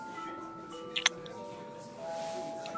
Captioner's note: Smooch